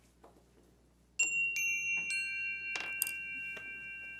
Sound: bell dinging

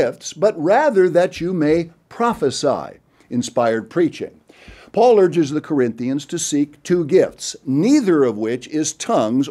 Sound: inspired preaching

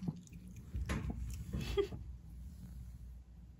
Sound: laugh

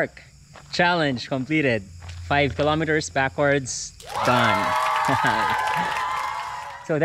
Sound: applause

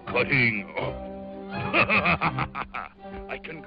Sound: evil laugh

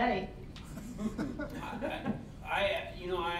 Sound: all laughing

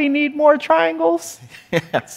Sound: laughs

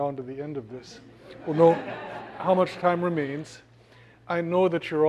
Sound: laugh

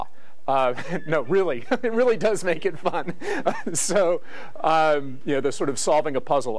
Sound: laugh

